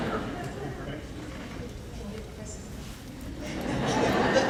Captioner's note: laughing